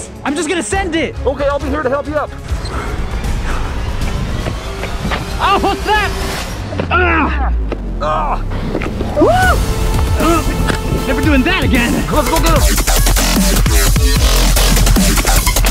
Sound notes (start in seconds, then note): 2.7 tempo rising; 6.8 groaning; 12.3 techno music